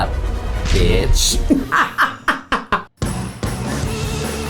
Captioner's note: laughs; upbeat rock music